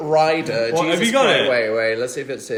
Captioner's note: overlapping chatter